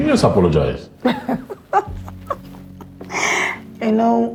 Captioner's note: Folasade laughing